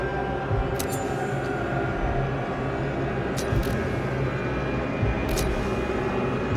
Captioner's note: eerie music continues; shears continue rasping